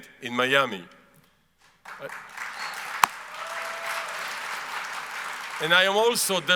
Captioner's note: audience applauds